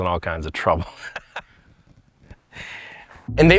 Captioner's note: laughs